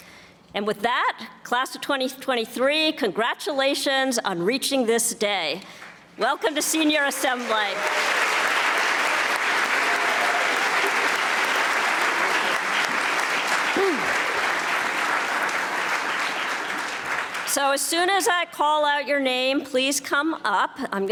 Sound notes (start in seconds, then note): 8.0 audience applauding